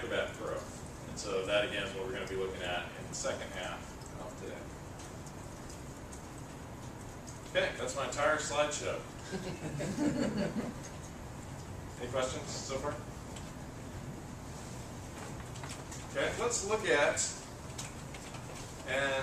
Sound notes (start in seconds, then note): 9.2 laugh